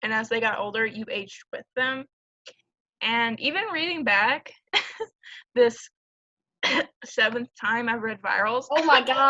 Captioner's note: cough